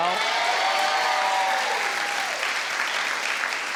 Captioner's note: audience cheers